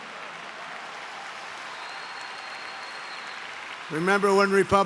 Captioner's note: applause